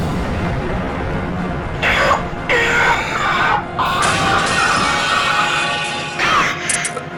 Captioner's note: screaming